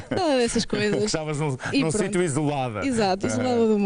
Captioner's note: laughter